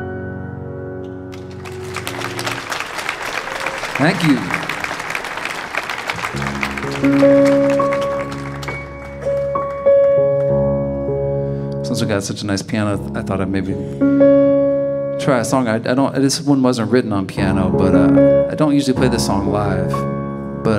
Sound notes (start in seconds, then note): 2.0 audience applauding